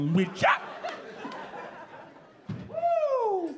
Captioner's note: audience laughing